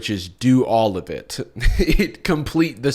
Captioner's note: chuckles